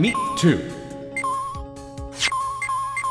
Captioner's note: slow beeping; rapid beeping!